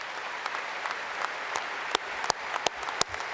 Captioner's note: applause